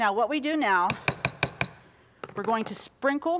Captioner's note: spoon tapping